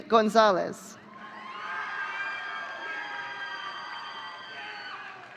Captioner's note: audience cheering